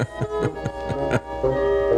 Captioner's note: laughter